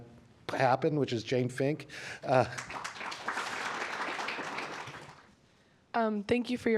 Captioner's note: applause